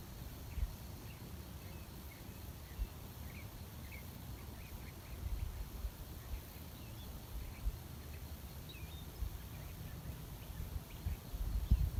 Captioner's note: birdsong in background